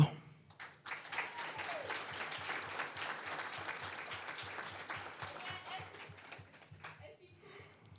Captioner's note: applause